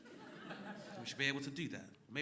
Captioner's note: crowd laughing